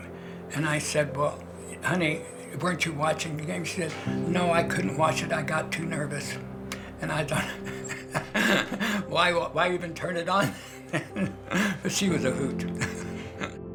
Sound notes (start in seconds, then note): 6.6 laughing